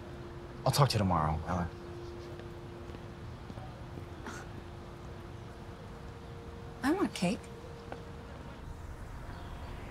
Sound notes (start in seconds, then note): 4.3 scoffs